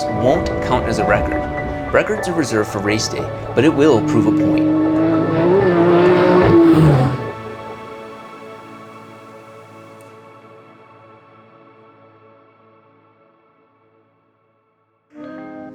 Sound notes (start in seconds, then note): 5.0 car engine revving